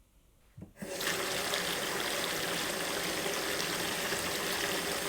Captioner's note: water running